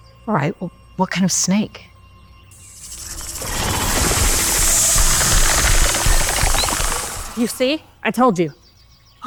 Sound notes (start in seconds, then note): 2.6 snake hisses; 2.6 snake rattles